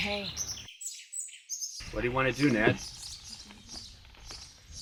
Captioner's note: birds chirp